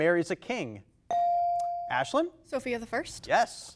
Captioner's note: bell dings